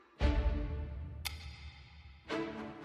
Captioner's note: syncopated violin stab; syncopated clock ticking; syncopated violin stab